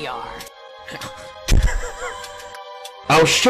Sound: chuckles

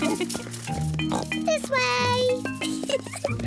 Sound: all laugh; oinks; giggles

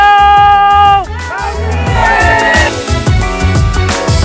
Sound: crowd

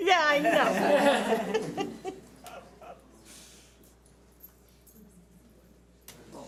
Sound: audience laughs

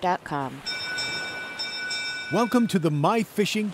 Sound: bell rings

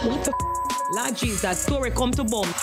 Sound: beep

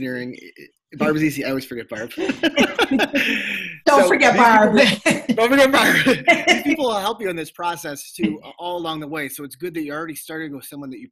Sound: laughter

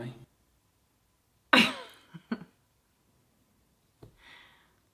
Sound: liv scoffs

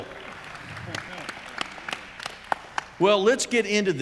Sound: audience applauds

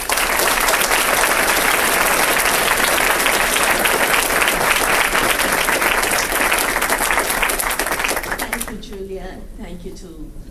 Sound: applause

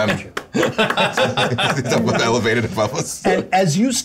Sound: clapping hands

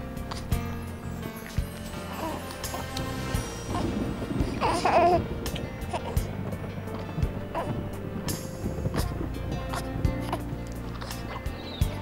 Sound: Brady coos; birds tweet

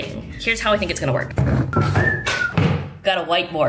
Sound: camera rumbles; whistles

